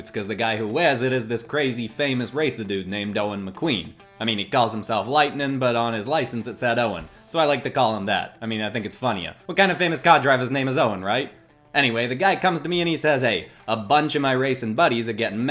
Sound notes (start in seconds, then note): none